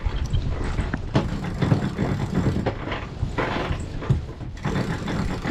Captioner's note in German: Drehgeräusch des Motors